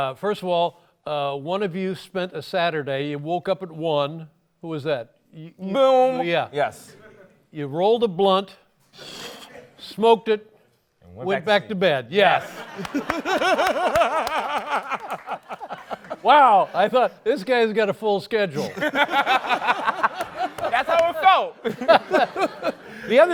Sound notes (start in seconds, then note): 12.3 laughs; 18.5 laughter